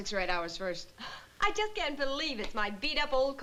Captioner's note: sighs